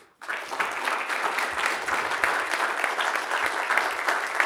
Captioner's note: audience applauds